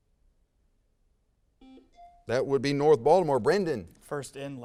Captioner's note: buzzer sounds